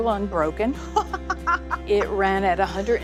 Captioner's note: laughs